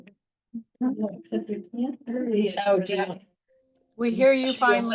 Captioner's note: people chattering